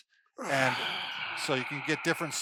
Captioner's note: sighs